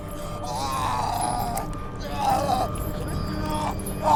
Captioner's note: Brocheet screaming